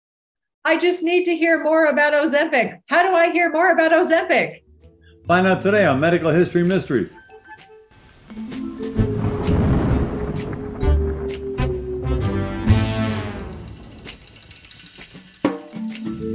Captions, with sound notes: - I just need to hear more about Ozempic. How do I hear more about Ozempic? - Find out today on "Medical History Mysteries." (curious music) (thunder cracking)